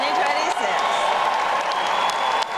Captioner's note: audience applauding; audience cheering